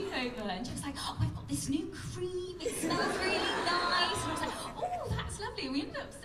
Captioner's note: laughter